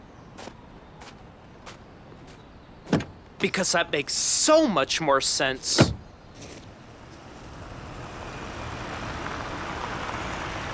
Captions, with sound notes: - Because that makes so much more sense. (car door slamming) (car engine roaring)